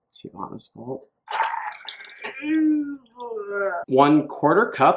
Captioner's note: nervous sound